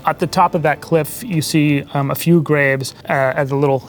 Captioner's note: none